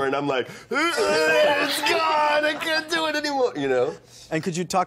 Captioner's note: grunting